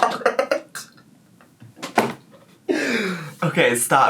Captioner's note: laughs